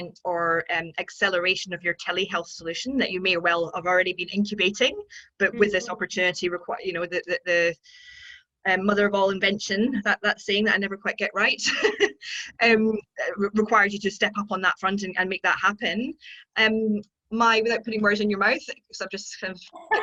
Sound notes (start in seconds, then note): 11.7 laughing